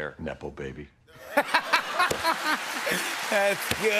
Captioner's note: laughter